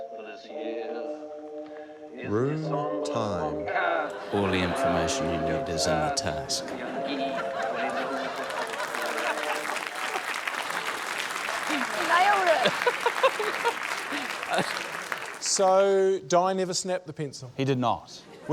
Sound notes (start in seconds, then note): 7.5 laughter, applause; 13.1 laughs